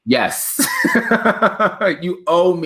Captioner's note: laughing